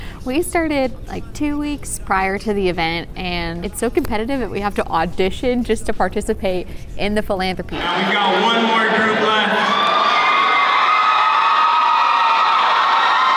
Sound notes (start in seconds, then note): 9.5 cheering